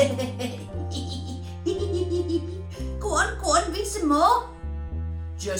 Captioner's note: laughing